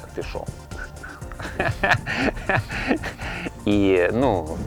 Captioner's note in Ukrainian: сміх